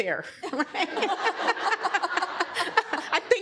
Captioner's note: laughter